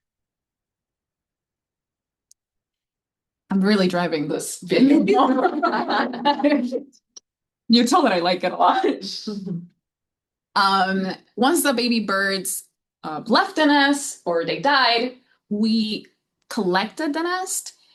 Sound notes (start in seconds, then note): 4.9 audience laughing